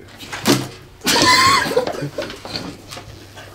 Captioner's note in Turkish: gülme sesleri